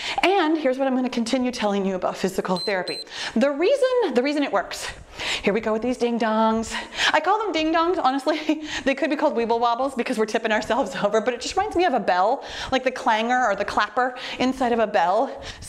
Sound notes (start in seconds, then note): 2.5 timer beeps